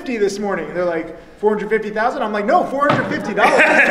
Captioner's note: slaps table; audience laughs